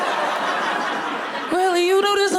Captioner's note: audience laughing